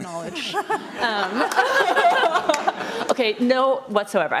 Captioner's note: audience laughs